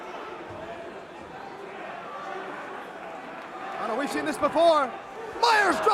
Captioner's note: crowd chatter